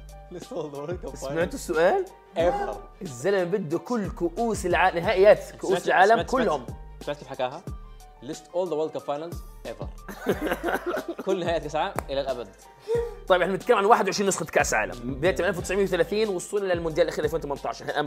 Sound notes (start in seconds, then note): 10.1 laughs